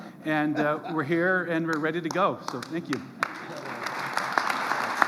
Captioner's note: applause